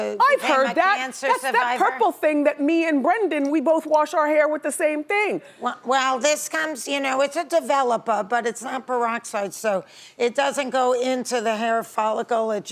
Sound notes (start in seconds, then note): none